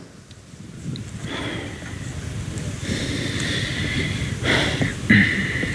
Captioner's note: heavy breathing and footsteps